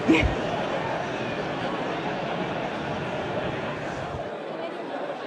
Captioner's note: indistinct chatter continues